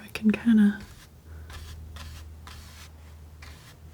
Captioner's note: scratching